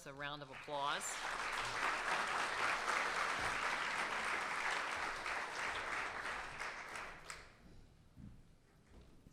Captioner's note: applause